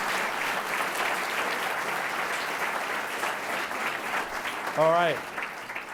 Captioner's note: audience clapping